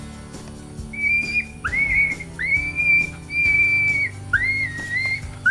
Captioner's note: coyote pup distress call